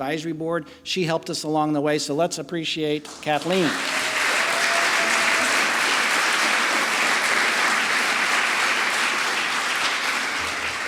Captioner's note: applause